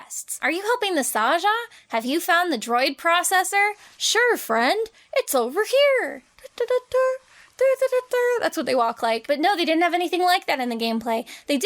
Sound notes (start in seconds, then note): 6.4 humming cheerily